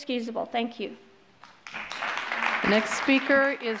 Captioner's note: applause